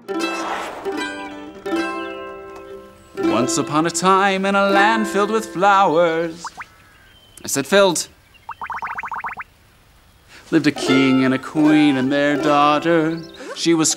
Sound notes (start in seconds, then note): 6.8 popping; 8.4 rapid popping